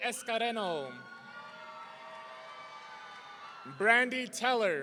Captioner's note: audience cheering